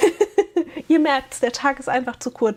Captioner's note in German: gelächter